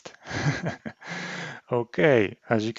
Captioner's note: laughs